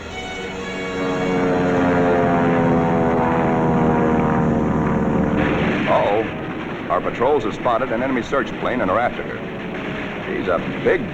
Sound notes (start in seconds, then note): 1.3 aircraft engine